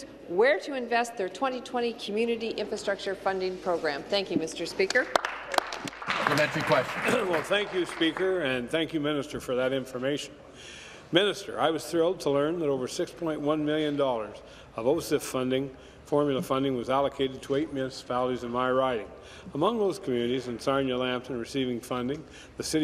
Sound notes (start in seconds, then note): 8.3 applause